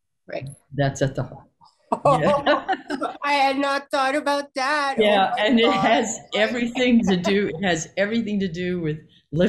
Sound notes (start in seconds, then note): 2.0 both laughing